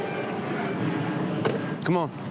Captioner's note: car door slams close